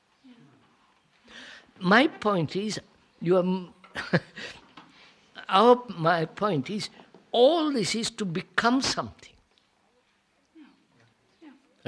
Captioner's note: laughs